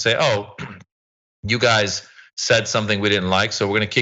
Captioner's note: cough